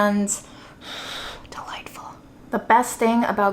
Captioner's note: air blows